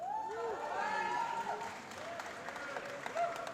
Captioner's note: applause